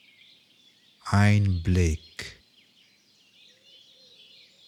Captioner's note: german